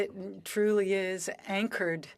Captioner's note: speaking French